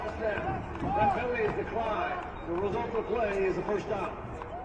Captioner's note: applause